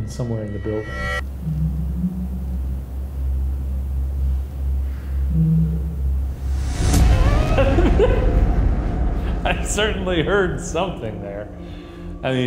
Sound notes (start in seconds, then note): 1.9 faint humming; 6.5 dark suspenseful music; 7.4 laughs